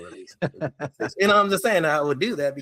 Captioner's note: laughing